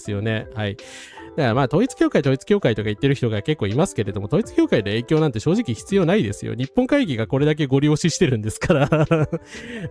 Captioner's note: laughs